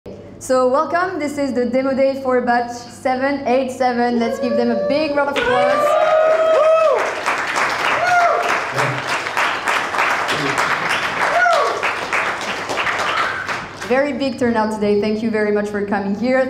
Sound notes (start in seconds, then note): 5.3 crowd applauding; 6.3 crowd cheering